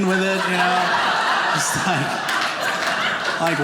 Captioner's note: audience laughing